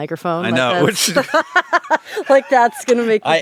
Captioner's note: laughing